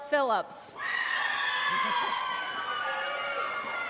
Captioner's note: applause